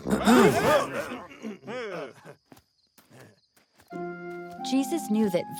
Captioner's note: clears throat; startled noises